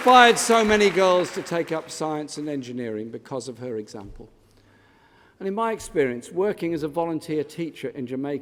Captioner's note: applause